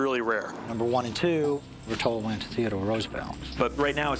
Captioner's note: none